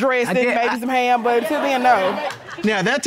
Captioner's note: indistinct chatter